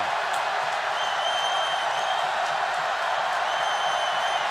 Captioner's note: cheering